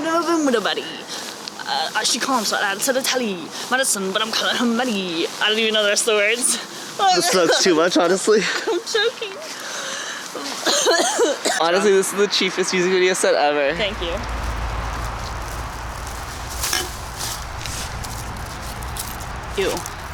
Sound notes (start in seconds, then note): 0.1 rapping poorly; 10.6 coughs